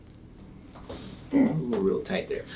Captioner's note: body rustles; patient grunts